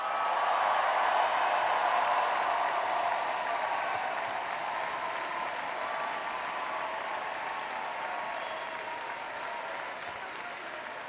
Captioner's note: cheers